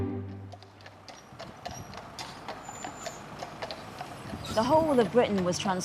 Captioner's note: horse hooves clopping